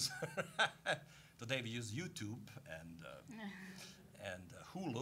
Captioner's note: laughing; all laughing